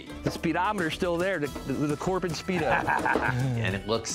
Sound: chuckles

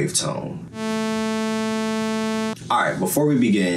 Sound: bass buzzing

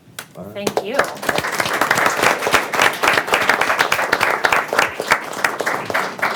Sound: audience applauding

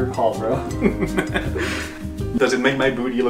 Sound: laughing

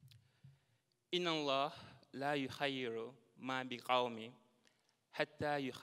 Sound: speaking in a foreign language

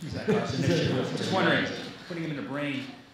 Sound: people chattering

